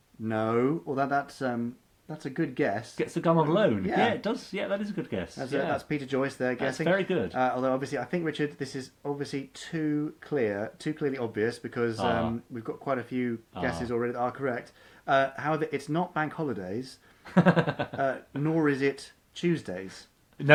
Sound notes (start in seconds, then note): 17.3 laughs